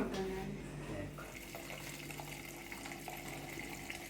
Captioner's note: discussing in Kinyarwanda; wine gushing